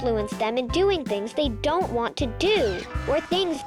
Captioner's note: X screeching